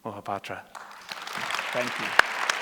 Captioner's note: applause